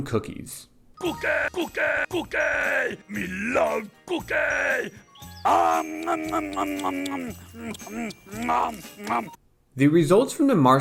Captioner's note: cookie consumption sounds